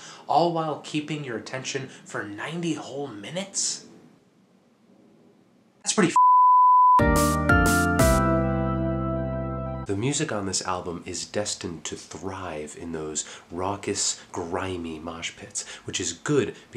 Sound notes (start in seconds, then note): 6.1 beep sound; 7.8 upbeat music plays